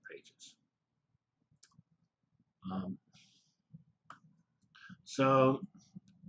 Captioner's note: pause